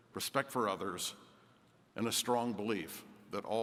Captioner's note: none